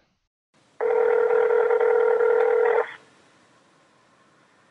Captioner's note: outgoing phone ringing